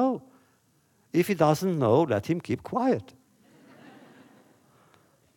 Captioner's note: laughter